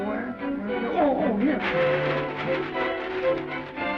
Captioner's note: bag rustles